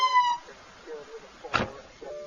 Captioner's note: siren cuts out; car door closes